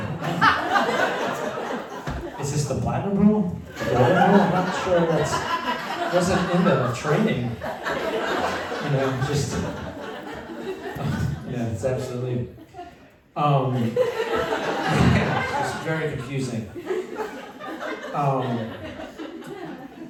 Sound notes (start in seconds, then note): 7.9 laughter; 16.9 laughter